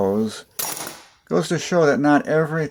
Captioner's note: clank